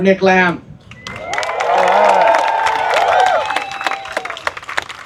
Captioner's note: applause